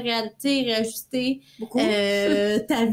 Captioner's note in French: rires